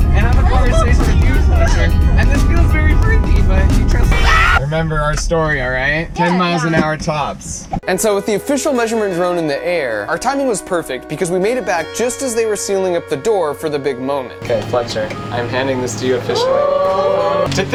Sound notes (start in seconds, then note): 4.1 screams